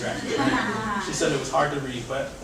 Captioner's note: audience laughing